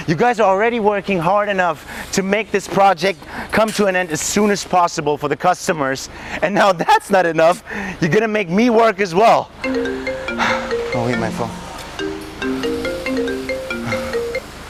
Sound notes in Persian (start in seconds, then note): 9.6 زنگ تلفن